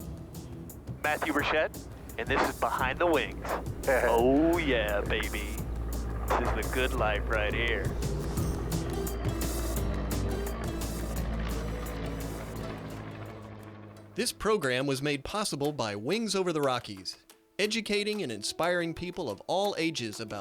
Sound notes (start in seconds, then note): 8.4 uplifting music; 9.7 air craft engine roaring